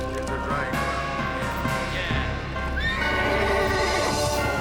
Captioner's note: horses neighing